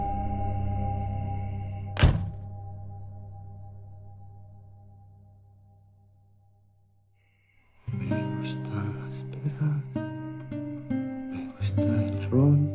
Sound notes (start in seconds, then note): 1.9 door slamming; 7.8 acoustic guitar music